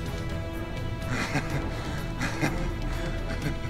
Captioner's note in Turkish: Gülme sesi